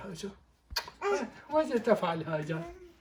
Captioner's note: kiss